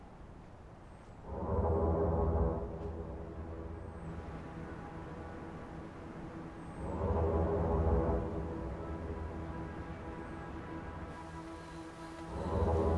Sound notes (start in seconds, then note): 4.4 sound of a distant waterfall; 7.6 ominous theme playing